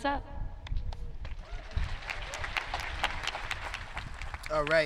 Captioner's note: audience clapping